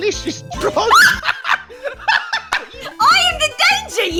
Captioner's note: laughter